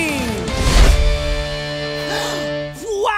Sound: gasping

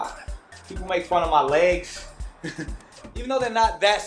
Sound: laughs

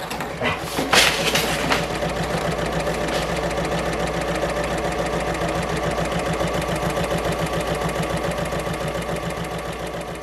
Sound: sewing Machine Sounds

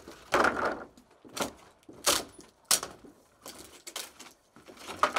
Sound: planks cracking; planks creaking

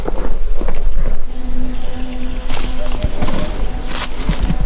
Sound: the drone's buzzing

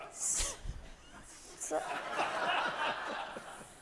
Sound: audience laughs

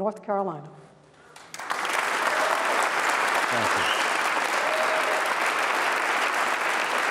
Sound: applause

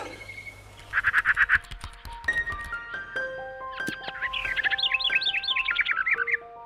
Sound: birds chirping; bright music

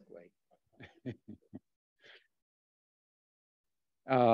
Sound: chuckles

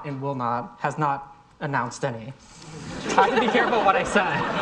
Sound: audience laughing

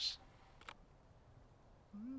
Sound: binoculars click

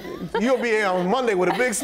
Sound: laughter

